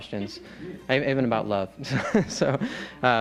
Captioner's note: laughs